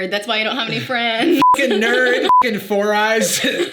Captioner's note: beep